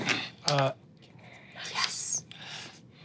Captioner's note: dice rolling